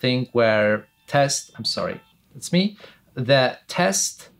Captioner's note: phone ringing